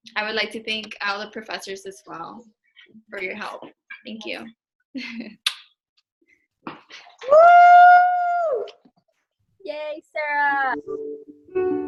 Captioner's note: cheers; soft instrumental music